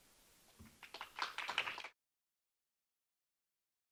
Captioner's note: applause